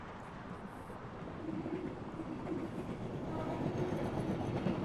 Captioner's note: train rattles